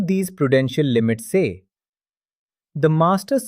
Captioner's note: pause